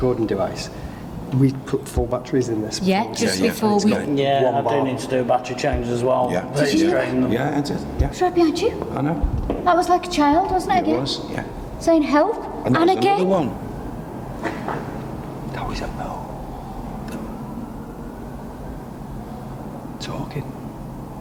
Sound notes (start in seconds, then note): 13.5 tapping sound